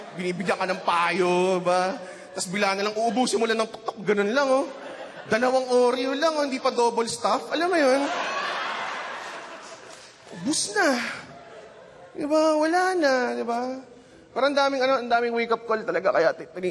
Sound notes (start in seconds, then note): 7.7 laughter